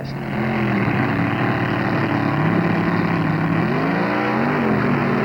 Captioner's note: engines roaring